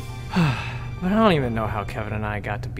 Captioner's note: sighing